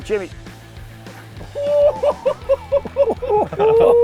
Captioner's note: laughs